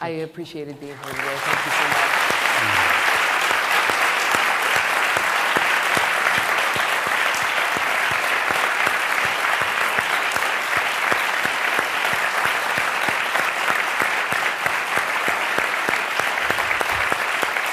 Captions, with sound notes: I appreciated being here today. Thank you so much. [APPLAUSE]